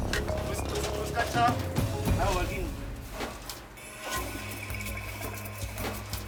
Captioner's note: the team chat in a foreign language